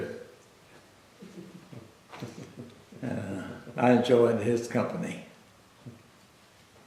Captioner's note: laughter